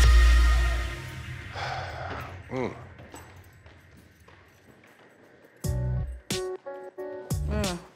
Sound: sighs

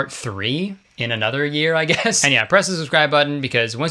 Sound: laughs

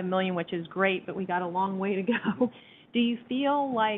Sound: chuckles

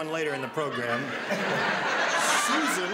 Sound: laughter

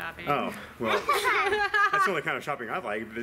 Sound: scoff

